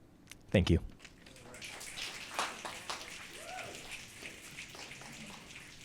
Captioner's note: audience clicking and cheering